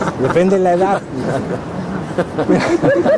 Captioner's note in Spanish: Risas